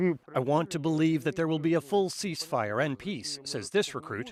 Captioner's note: speaking alternate language